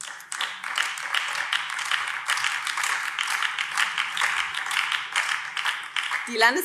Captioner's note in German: Beifall BÜNDNIS 90/DIE GRÜNEN